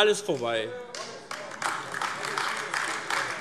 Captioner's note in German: Beifall AfD